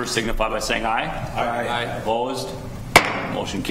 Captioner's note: multiple voices